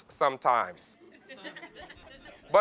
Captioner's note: laughs